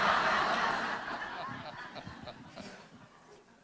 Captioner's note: laughter